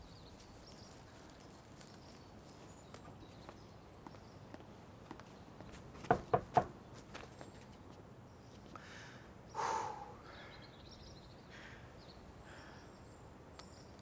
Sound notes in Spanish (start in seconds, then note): 6.0 llamando a la puerta; 9.5 exhala emocionado